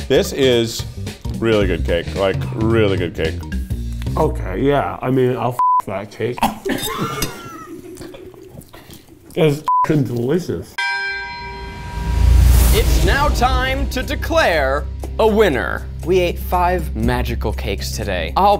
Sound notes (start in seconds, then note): 6.4 group laughing; 10.8 bell tolls